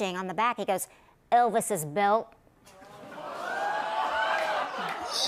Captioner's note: audience "Oohs"